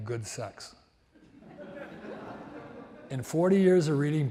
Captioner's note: audience laughs